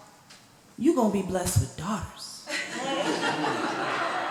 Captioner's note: laughter